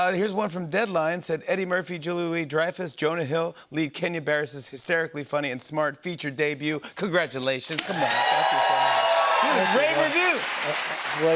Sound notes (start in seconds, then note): 7.8 cheers and applause